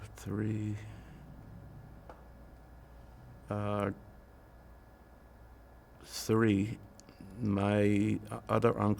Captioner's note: pauses 6 seconds